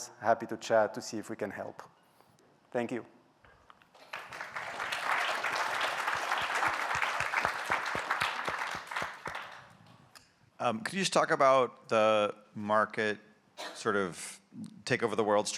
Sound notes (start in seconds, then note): 3.9 applause